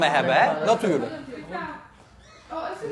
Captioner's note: door opens